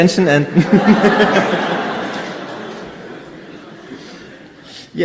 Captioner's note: audience laughing